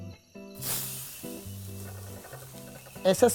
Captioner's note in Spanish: chisporroteo